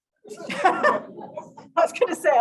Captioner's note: audience giggling lightly